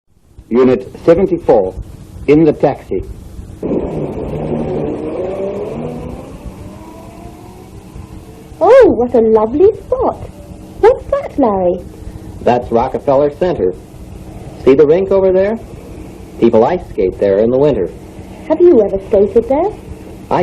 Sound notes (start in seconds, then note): 3.6 car going. Fade